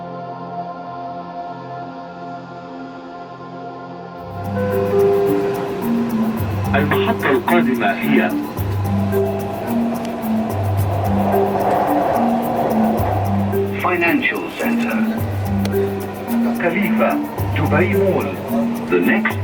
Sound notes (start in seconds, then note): 5.8 lively music; 6.9 metro speaker announcing the next station in Arabic; 14.2 Metro speaker